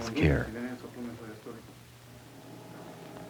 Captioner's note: non-English speech